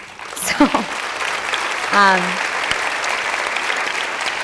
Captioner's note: applause